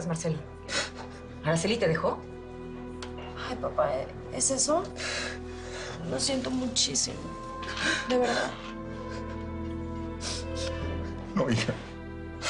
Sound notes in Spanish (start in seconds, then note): 0.6 Sollozos